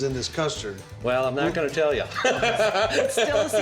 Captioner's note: laughing